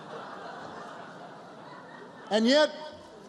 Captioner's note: laughter